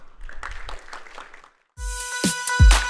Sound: applause

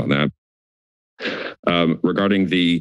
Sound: inhales

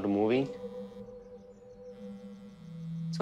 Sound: cell phone vibrates

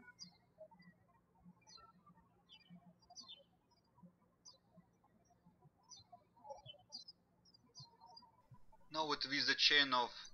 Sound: birds chirping

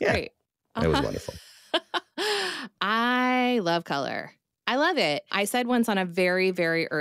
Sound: laughs

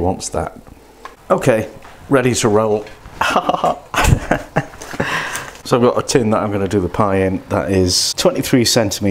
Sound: laughs

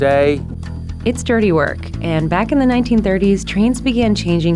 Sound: voiceover

